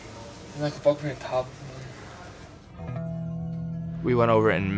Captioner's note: speaks in foreign language